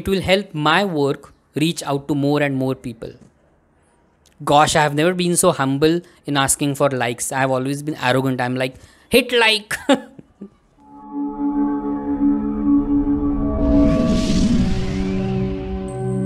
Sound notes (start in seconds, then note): 8.7 mocks; 9.9 chuckles